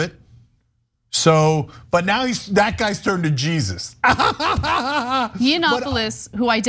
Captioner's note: laugh